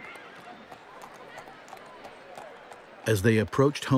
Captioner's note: horse hooves clopping